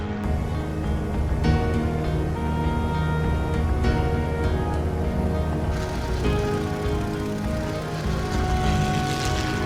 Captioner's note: plane sounds